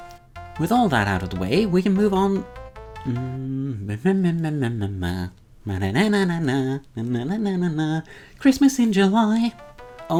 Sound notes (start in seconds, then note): 2.9 N becomes a frustrated humming; 5.7 humming morphes into the tune